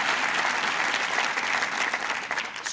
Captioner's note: applause